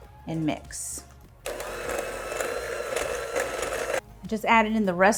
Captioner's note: mixer whirring